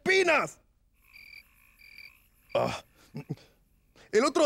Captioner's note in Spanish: Se escuchan grillos